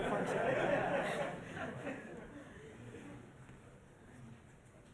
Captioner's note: laughter